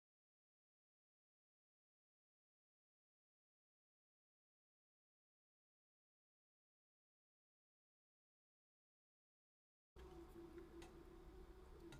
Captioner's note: silence